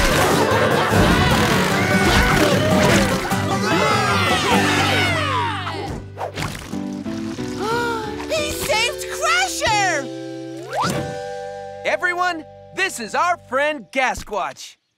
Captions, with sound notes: [cheering] He saved Crusher! Everyone, this is our friend Gasquatch.